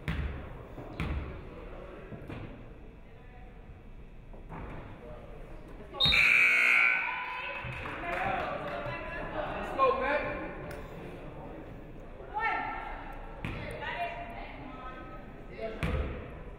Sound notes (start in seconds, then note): 6.0 referee whistles; 6.1 buzzer buzzes